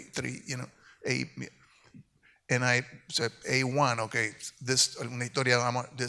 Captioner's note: speaks in Spanish